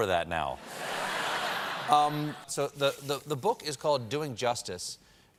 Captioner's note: laughter